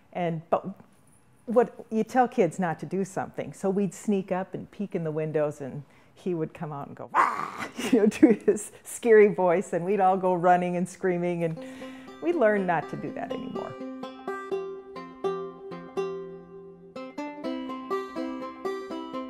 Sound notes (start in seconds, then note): 7.1 laughs; 15.4 acoustic guitar music